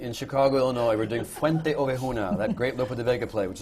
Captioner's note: laughter